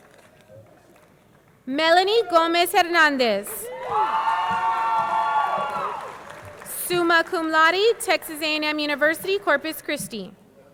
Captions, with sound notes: Melanie Gomez Hernandez. (audience cheering) (audience clapping) Summa Laude, Texas A&M University, Corpus Christi.